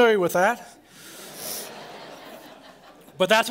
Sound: laughter

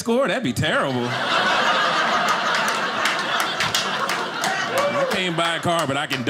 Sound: audience laughing

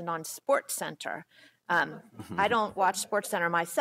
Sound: laughter

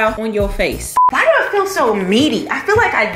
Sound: beep

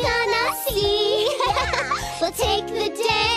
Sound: giggling

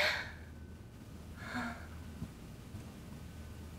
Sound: sighs heavily

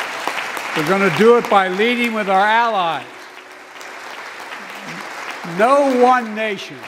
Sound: applause

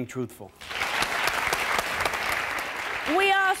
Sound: audience applauds

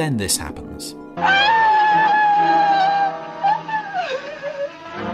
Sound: Helena screaming

